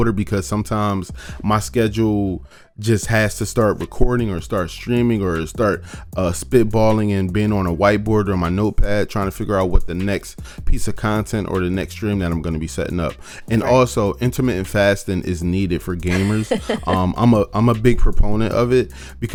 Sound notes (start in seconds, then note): 16.0 laughs